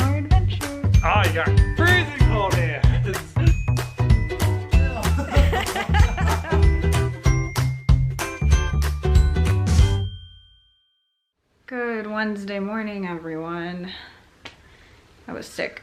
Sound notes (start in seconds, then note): 4.7 upbeat music; 4.8 laughing